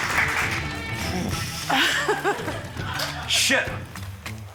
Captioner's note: applause; laughs; sighs